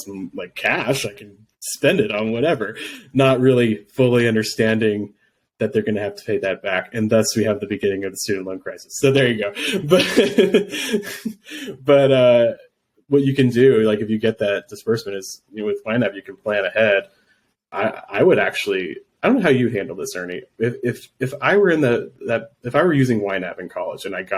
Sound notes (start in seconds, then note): 9.5 laughs